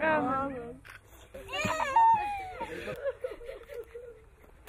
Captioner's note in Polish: płacz